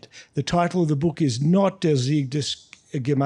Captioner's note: speaking in foreign language